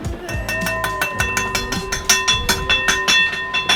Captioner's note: clanging bowl